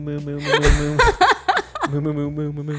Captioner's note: laughs